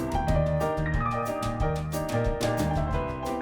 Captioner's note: snaps